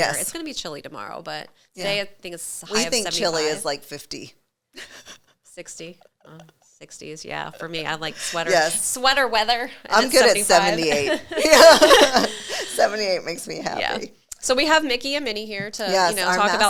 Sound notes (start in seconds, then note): 4.8 chuckling; 10.9 both laughing